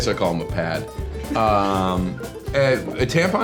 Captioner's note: John and Christopher laughing